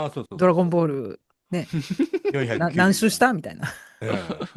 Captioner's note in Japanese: 笑い